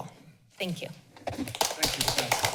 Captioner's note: applause